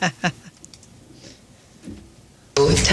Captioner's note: laughter